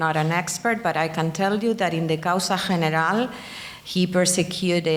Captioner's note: speaking in foreign language